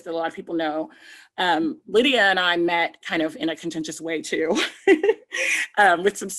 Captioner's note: giggles